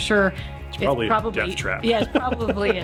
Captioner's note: laughing